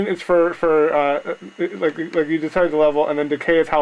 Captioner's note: stammering